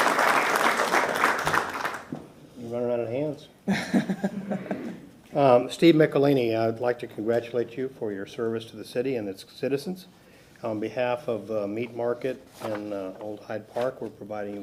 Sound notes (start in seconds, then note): 2.7 applause